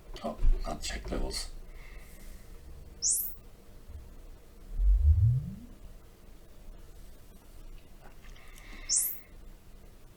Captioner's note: sine Sweep